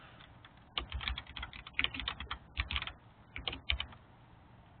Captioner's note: keyboard clicking